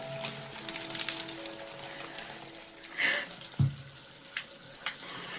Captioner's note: water continues splashing